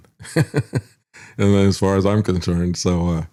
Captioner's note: laughs